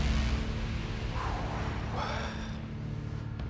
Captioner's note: exhales